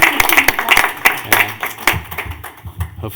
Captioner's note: clapping